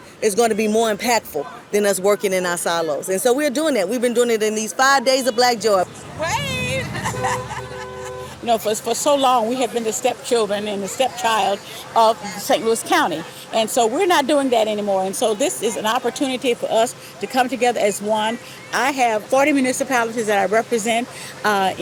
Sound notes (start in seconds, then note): 5.2 horn honking; 5.6 laughs